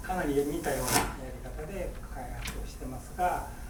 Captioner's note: speaking in foreign language; crackling